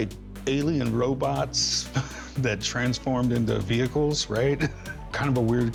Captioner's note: chuckles